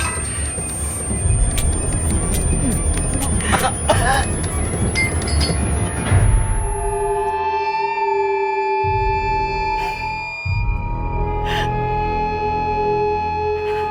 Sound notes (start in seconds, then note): 1.7 stabbing; 2.4 Theo coughing; 3.2 gasping